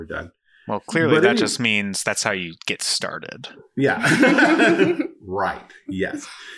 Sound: laughing

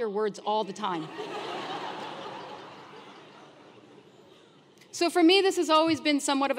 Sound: laugh

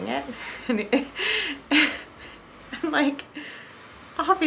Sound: chuckles

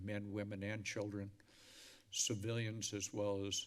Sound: inhales

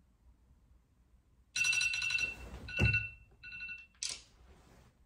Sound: cell phone alarm sound

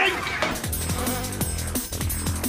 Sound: cat screech; thud; buzz

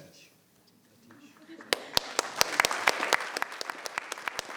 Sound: applause

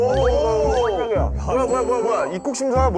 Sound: startled

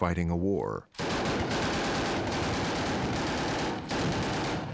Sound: rapid, continuous gunfire

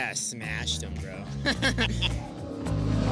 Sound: laughter

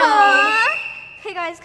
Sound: whistle blowing

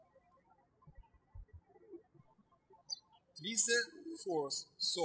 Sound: birds chirping

